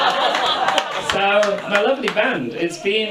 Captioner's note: audience laughs